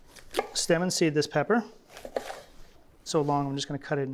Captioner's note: knife chopping